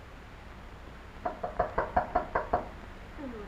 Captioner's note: knocking